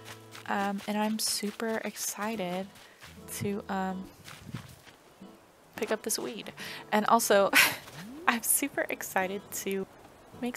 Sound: laugh

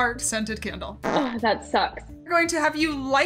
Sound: fart noise

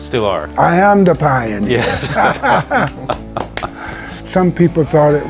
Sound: clapping & laughing

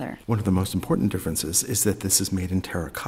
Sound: voiceover

